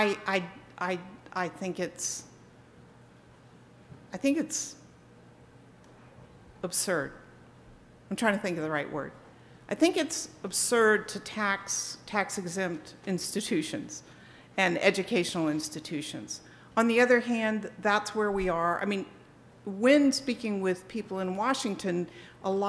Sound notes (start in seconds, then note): none